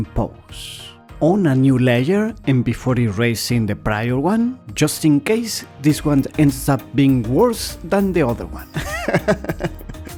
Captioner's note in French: rires